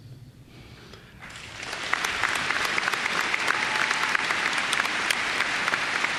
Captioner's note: applause